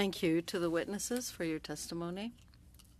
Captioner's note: speaking in French